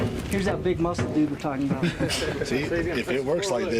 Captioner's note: laughing